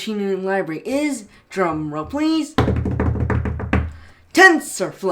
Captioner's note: drumming desk